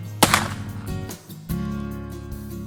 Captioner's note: loud crack!